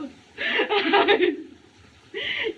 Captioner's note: crying